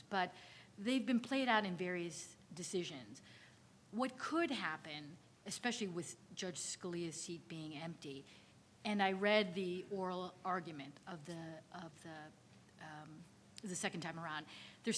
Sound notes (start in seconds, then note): none